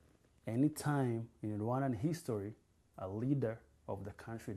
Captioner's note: none